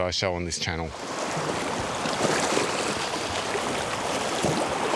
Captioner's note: water rushing